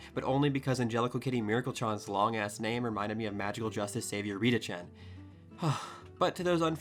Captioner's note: sigh